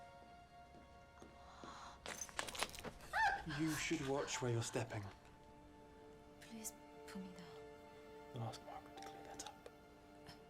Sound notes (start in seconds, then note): 0.2 footsteps approach; 3.1 yelps